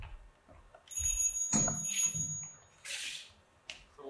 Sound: telephone rings

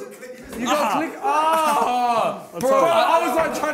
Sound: screaming

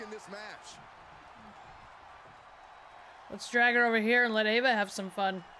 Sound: applause

